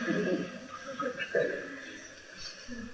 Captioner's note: laughter